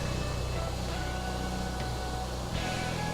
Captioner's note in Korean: 세탁기임을 증명하는 세찬 물 소리